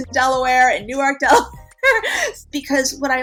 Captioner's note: laughs